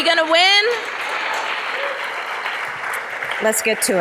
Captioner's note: audience applause